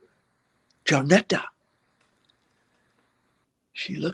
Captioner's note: foreign language